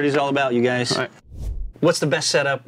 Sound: air swooshing

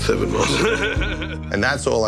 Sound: laughs

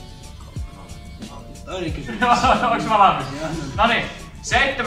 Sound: laughter

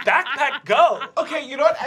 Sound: laughter

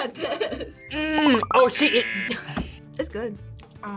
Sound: laughs; buzzer

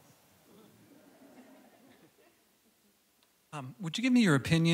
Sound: laughter

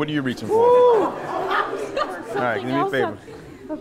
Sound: attendees laughing

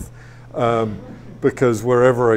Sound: audience laughs

